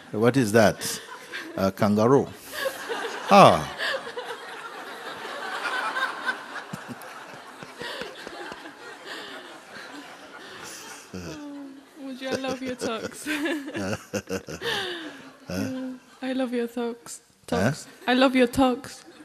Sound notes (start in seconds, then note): 6.5 laughter; 14.5 Mooji laughs; 19.0 laughter